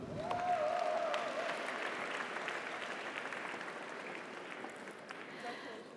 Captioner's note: audience applauds; audience cheers